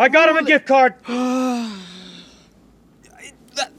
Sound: sighs

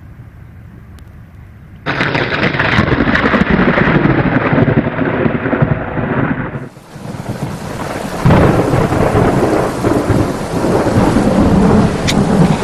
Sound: thunder

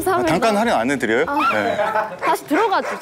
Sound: yelp

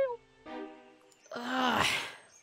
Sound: groans

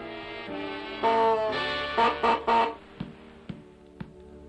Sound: goose Honks

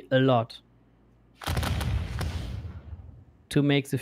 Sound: volley of booming sounds

